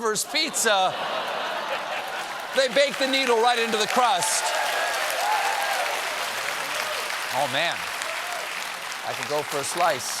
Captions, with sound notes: THEY BAKE THE NEEDLE RIGHT INTO THE CRUST. ( CHEERS AND APPLAUSE ) OH, MAN... I COULD GO FOR A SLICE, ALWAYS. WHERE DID FLYNN GET THE IDEA?